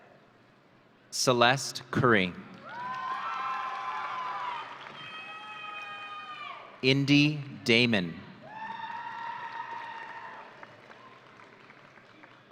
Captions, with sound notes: Celeste Curry. (audience cheering) Indie Damon. (audience cheering)